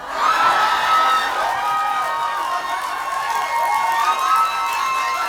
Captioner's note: audience applauding